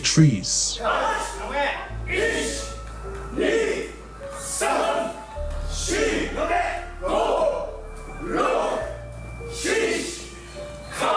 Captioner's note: chanting